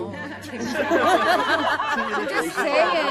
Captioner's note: laughter